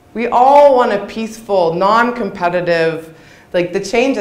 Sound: none

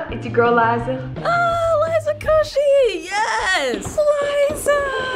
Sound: squeals

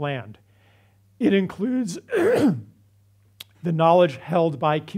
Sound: clear throat

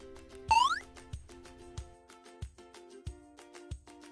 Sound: blob beeps

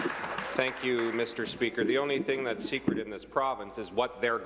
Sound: applause

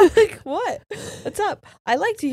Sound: both laughing

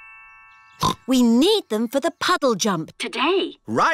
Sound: snorts

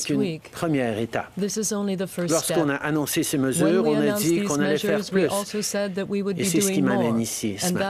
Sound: speaking French

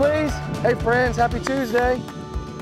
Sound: clapping

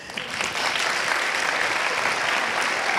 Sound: applauds

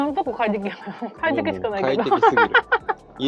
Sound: laughs

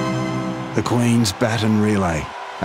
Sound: voiceover

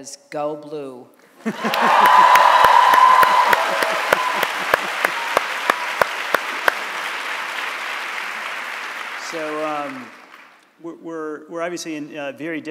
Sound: cheers and Applause

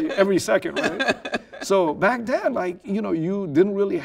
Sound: laughing

